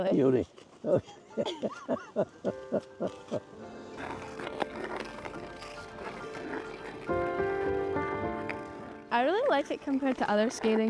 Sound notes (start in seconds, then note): 0.8 laughter; 3.9 skate blades carving ice